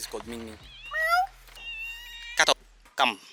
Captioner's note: meow